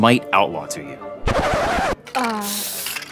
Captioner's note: record scratch